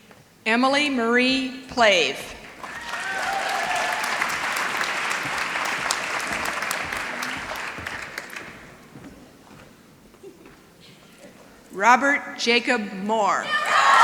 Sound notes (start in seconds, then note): 2.3 applause